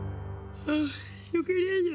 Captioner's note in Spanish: bosteza